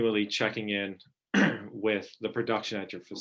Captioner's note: clearing throat